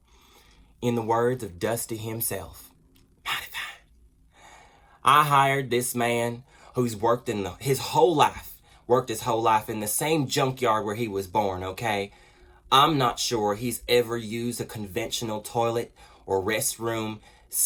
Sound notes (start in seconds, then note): 2.5 whispers; 3.9 normal voice